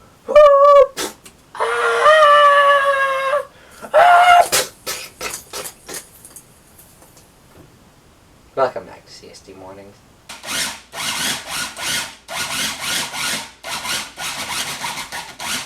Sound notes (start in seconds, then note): 1.0 splat; 4.3 crunch; 8.5 normal voice